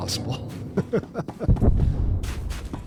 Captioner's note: laughs